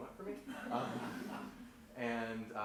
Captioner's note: laughter